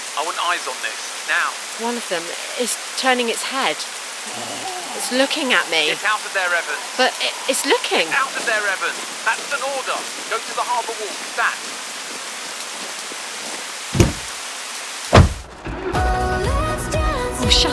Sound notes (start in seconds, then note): 4.2 odd groan